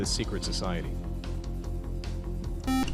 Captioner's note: buzzer